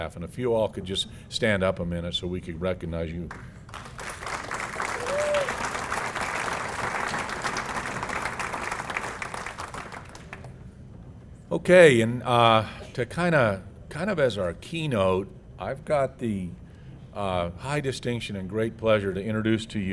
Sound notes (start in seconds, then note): 3.2 applause